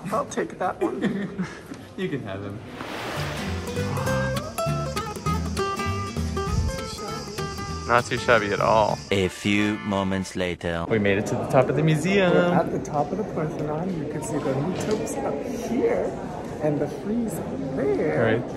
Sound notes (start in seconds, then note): 1.1 laughs; 2.6 water sploshing; 4.5 bright music